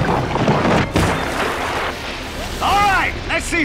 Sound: water whooshing

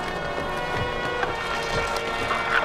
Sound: footsteps

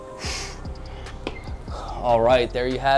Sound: exhales

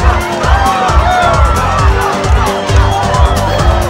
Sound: Crowd cheering for Spain & Portugal

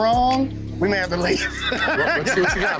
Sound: laughs

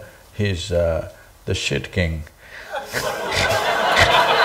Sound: laughter

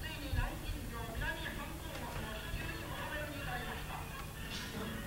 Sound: japanese radio celebrating the fall of Nanjing

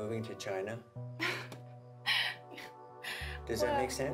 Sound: laughing

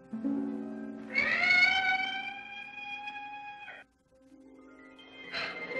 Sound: peacock screams

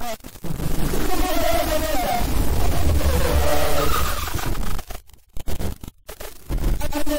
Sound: demon laughing and screeching

